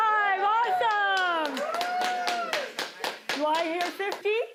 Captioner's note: cheering